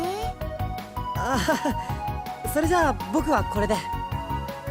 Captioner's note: awkward laugh